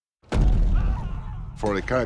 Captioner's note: men screaming